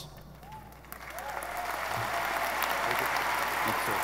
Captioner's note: audience applauding